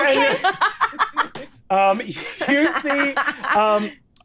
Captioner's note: laughing